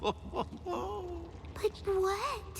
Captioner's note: chuckling